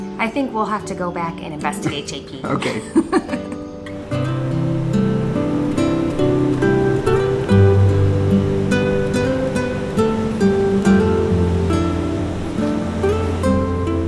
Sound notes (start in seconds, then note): 2.4 laughing; 3.9 waves crashing; 4.7 gentle guitar music